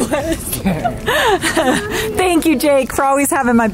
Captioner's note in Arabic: يضحك